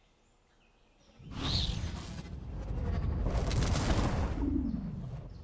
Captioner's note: electronic whirring